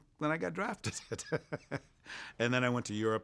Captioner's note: laughs